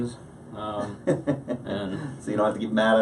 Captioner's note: laughs